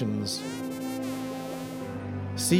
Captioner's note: porpoise whistles